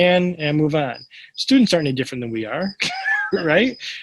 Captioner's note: laughs